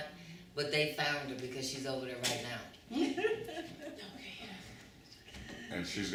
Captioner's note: laughter